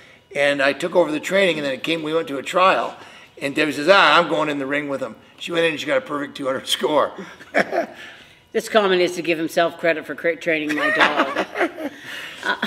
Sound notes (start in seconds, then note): 7.2 laughs; 10.7 laughs